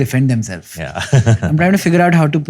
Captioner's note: chuckles